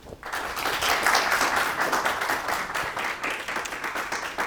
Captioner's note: applause